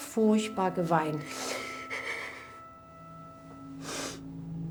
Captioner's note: sobs